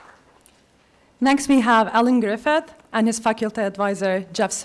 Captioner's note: applause